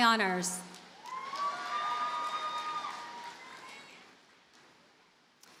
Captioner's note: audience cheers and applauds